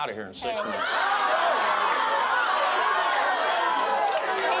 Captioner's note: crowd jeering